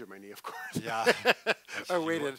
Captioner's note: laughs